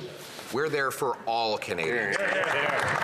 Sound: applause

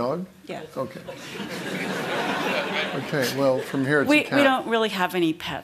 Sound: laughter

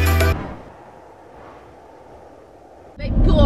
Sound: wind blowing

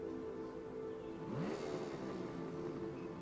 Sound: motorcycle revving

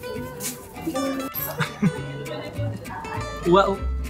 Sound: chuckle

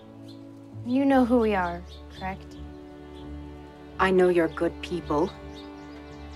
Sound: none

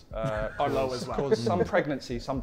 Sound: Sidemen laughing

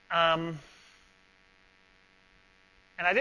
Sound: pause

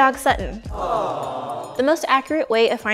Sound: audience awing

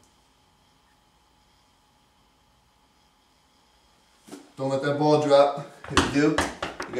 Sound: pause

